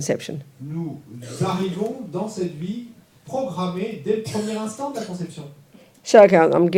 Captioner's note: French